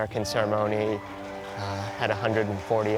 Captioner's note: applauding